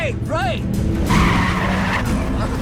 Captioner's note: tires screeching; dramatic music